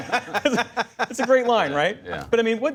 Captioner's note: laughter